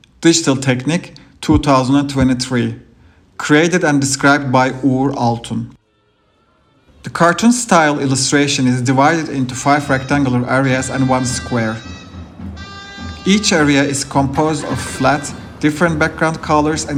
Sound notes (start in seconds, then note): 6.3 turkish wedding ambience throughout; 12.0 zurna